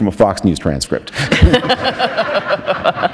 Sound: laughter

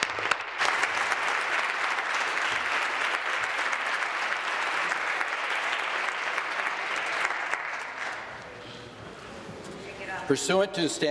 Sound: applause

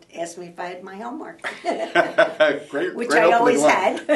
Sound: laughter

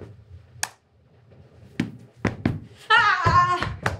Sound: clap

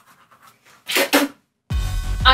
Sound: spits

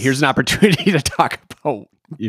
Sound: laughing

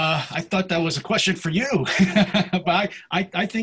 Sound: laughs

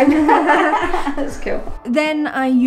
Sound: laughing

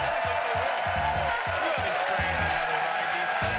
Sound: cheers and applause

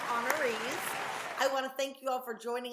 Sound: applause

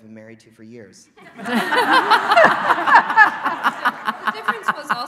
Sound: laughing

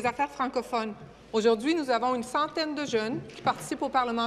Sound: speaking in French

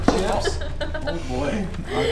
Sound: laughing

